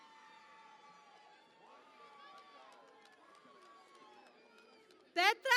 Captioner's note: cheering and Applause